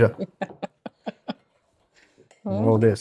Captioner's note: laughs